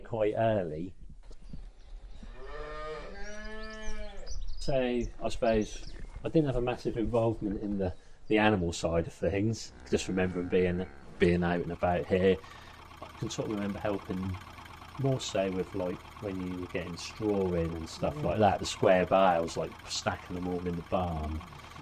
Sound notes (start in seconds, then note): 2.1 birds chirping, cow's mooing